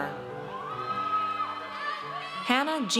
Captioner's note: audience cheers